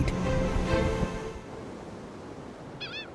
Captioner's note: upbeat instrumental music; lifeboat engine whirring; water splashing; seagull screeching